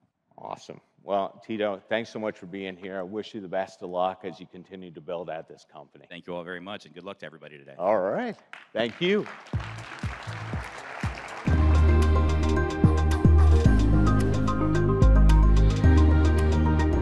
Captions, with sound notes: - Awesome. Well, Tito, thanks so much for being here. I wish you the best of luck as you continue to build at this company. - Thank you all very much, and good luck to everybody today. - All right, thank you. (audience clapping) (upbeat music) (bright music)